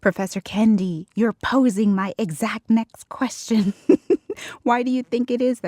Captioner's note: laughs